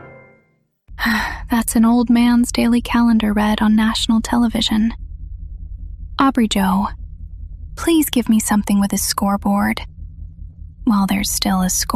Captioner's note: sighs